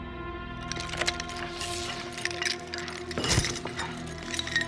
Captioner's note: clattering